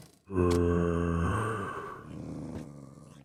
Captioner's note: zombie groans with effort